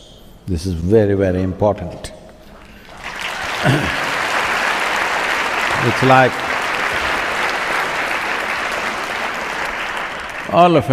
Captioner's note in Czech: Potlesk